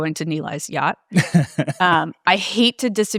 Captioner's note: laughing